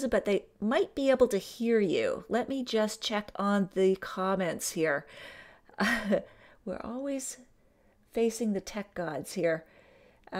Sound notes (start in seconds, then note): 6.3 laughing